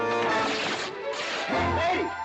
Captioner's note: cloth tearing